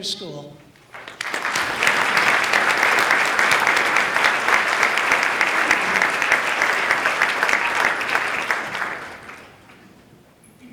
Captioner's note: applause